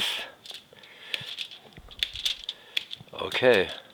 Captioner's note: foil crinkling